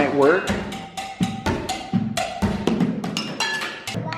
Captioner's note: dishes bang